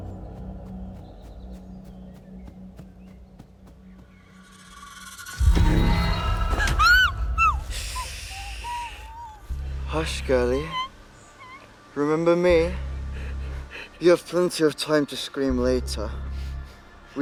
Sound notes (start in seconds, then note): 4.6 dramatic music; 6.5 Hilda screaming